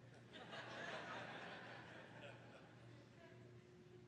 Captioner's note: laughter